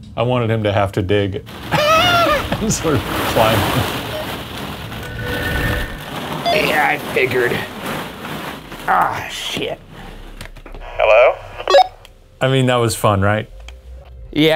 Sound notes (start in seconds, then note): 4.2 plastic balls rustling; 11.7 walkie beeps